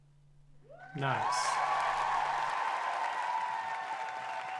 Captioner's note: applause for robot